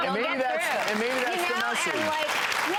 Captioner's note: audience applauds